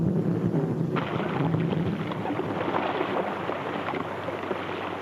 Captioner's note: water splashes